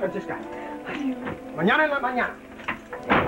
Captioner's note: Spanish spoken language